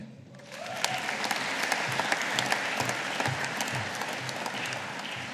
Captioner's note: audience applauding